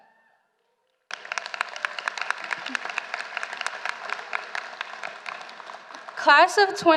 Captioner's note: applause